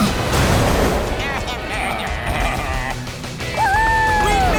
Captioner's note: baaing